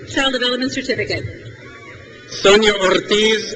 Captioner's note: crowd cheers